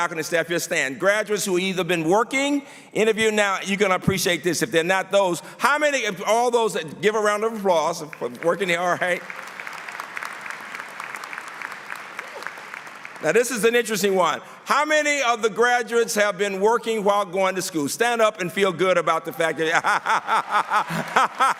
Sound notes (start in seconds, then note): 7.9 applause; 19.6 laughter; 20.4 applause